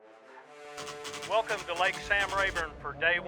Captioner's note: voiceover